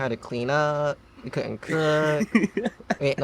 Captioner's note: laughs